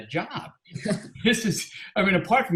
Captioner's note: chuckling